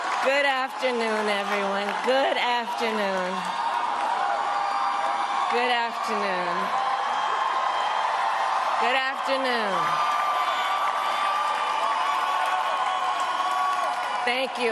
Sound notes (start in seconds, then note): 6.2 cheers and applause